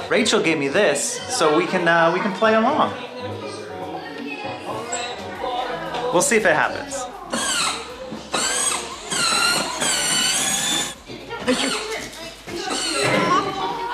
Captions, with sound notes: Rachel gave me this so we can, we can play along. We'll see if it happens. (engine whizzing)